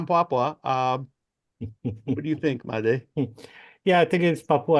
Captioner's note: laughs